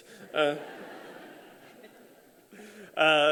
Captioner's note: laughter